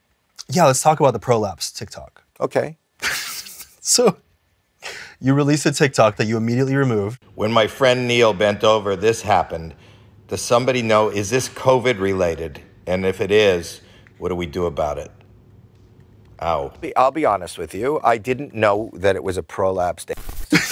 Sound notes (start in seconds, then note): 3.0 laughs; 20.5 giggles